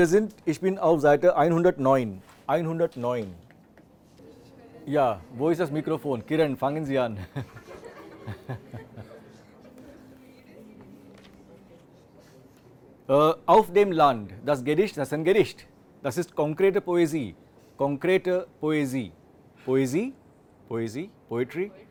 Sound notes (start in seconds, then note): 7.1 indistinct laughter